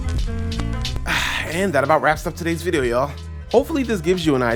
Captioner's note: sigh